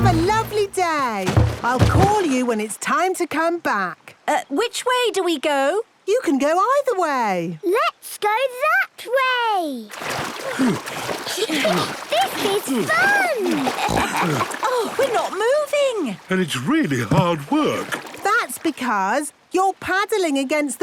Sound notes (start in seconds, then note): 10.4 panting; 13.4 snorts, giggles